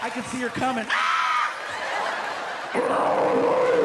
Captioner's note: screams; roaring